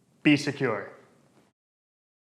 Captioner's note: silence